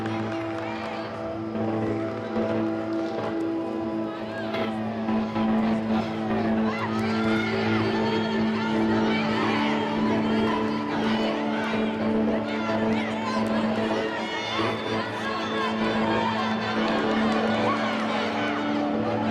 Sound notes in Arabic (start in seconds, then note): 4.8 تشجيع الجماهير